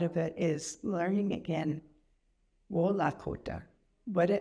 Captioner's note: speaks Indigienous language